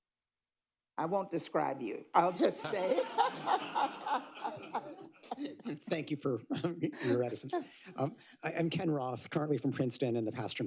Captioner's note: laughter